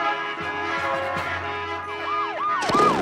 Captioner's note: sirens blare